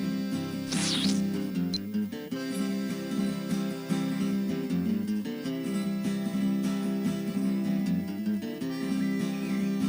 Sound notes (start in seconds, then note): 0.7 portal squelches; 6.4 hurried guitar music